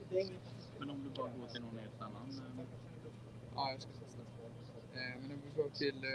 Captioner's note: speaking Swedish